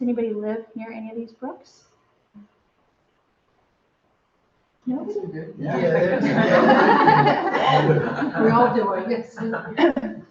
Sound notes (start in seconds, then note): 5.7 chuckles